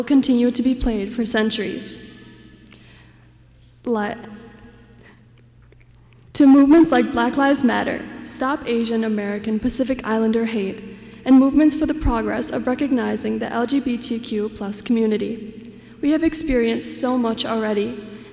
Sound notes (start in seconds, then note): none